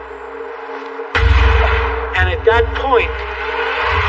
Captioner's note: gunshot